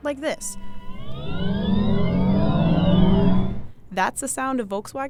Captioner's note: electric revving